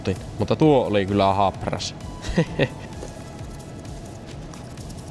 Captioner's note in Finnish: naurua